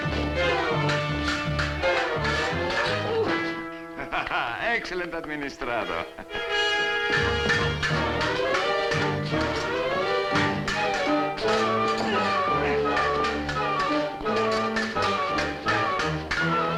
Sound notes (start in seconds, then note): 3.4 laughs; 11.6 grunting